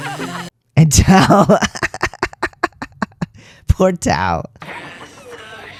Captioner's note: laugh